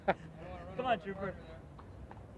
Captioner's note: laughing